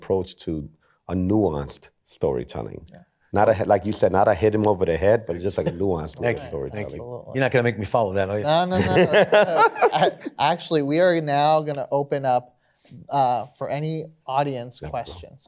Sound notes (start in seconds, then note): 8.7 laughs